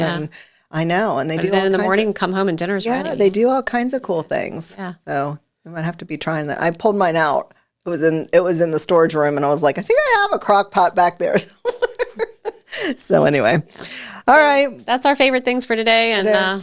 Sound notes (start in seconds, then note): 11.6 laughs